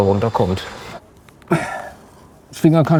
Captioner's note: groan